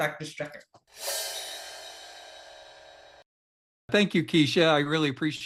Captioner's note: transition clanging